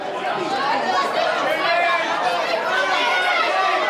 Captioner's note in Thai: แฟนๆ ส่งเสียงตะโกน